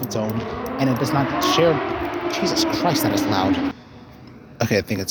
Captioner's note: interrupting motorbike